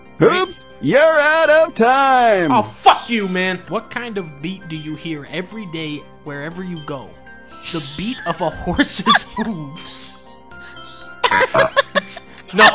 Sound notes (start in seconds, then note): 7.6 laughing